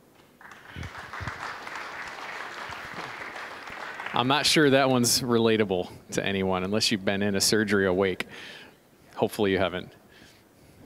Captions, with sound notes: (applause) >> I'm not sure that one's relatable to anyone, unless you'd been in a surgery awake. Hopefully, you haven't.